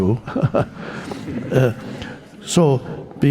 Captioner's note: audience laughing; Eckhart chuckling